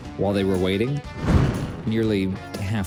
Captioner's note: fire whooshing